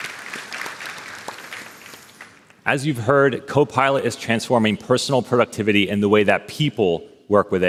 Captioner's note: applause